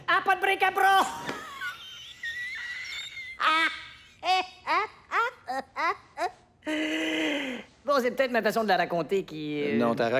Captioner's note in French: rires sifflants